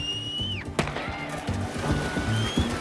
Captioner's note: gun pops